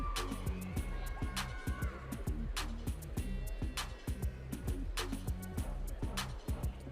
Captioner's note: audience cheering